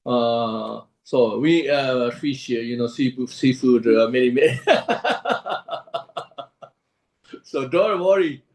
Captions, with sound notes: Fish, you know seafood, many many [laughs]. So don't worry.